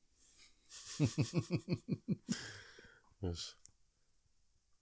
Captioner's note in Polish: śmiech